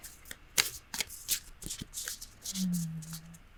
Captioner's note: cards shuffling